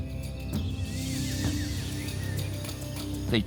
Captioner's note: birds chirping